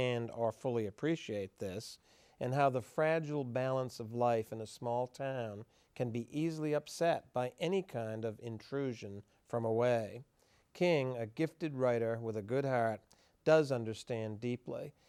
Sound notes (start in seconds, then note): none